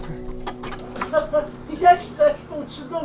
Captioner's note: laughs